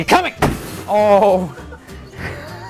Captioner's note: laughing